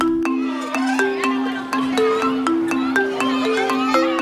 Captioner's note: bright music; kids chattering